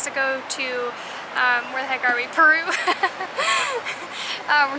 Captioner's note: giggles